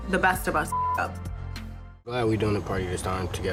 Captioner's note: beep